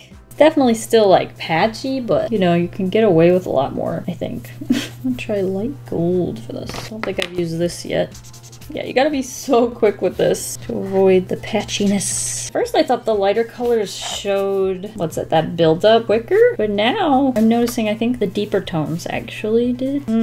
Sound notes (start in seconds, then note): 4.6 chuckle